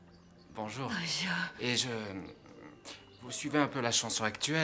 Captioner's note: clears throat